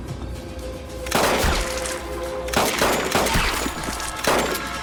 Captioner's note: gunshots